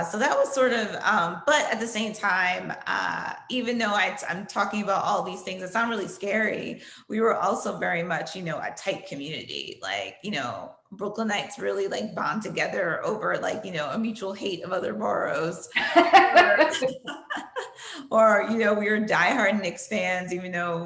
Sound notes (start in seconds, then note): 15.7 laughter